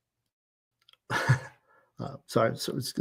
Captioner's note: laughs